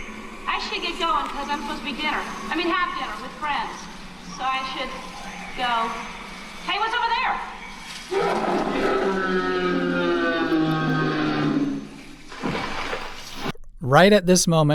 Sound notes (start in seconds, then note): 8.0 very loud roar; 12.3 stomping footsteps